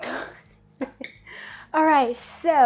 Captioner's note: laughs